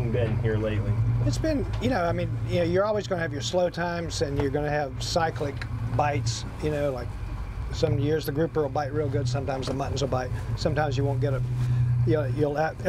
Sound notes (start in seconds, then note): none